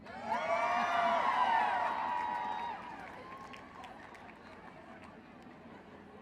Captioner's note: cheering